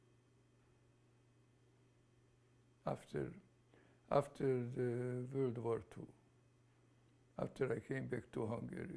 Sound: pauses for 3 seconds

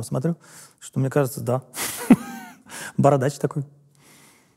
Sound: laughs

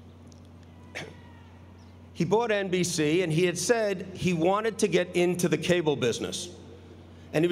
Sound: cough

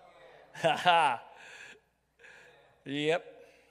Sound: chuckles

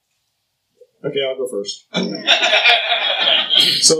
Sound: laughter

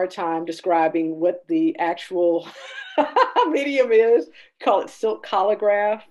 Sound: laughing

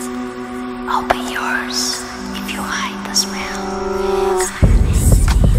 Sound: whispers; whispers

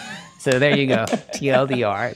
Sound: both chuckling; clapping

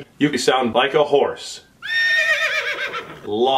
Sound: horse whinny

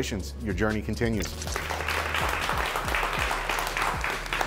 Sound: clapping

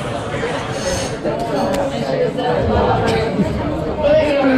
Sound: background chatter

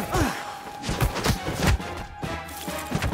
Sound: thudding; ice clatters

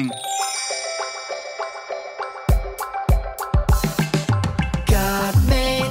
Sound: bright playful music; stars twinkling

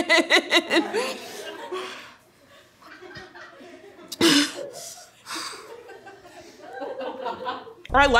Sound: laughing

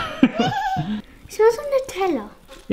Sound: laughing

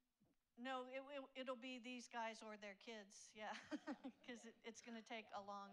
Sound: laughs

